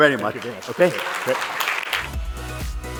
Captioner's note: applause